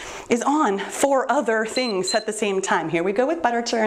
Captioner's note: timer beeps